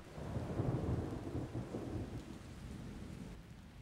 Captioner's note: thunder crashes